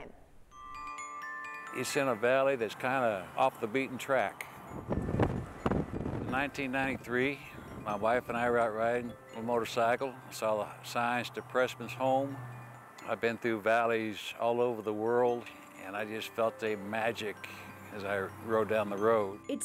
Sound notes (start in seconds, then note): 4.5 wind blowing